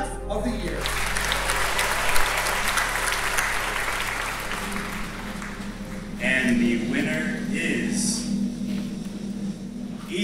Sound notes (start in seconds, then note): 0.5 audience applauds; 4.7 dramatic percussive music